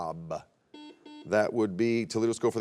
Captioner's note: buzzer beeps